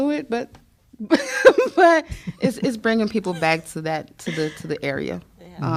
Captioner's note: laughter